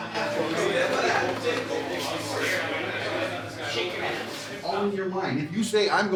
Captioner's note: locker room chatter